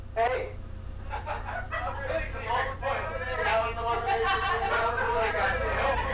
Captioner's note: laughing; murmuring